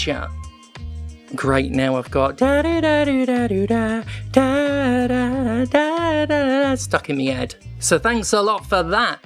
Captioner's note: hums